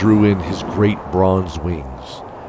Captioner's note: grunt